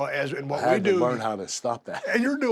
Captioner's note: laugh